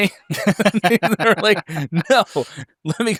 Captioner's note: laughs